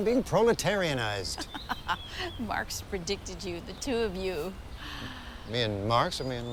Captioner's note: laughs